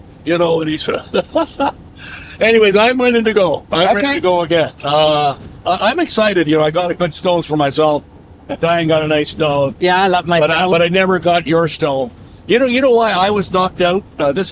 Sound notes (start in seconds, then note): 0.5 chuckles